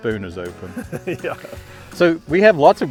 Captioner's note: laughs